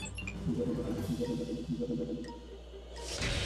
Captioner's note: beeping